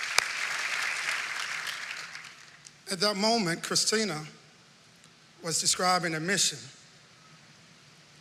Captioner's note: applause